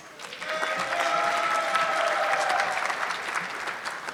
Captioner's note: audience clapping